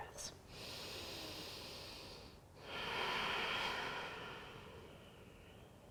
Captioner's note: deep breathing